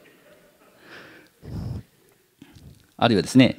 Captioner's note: laughter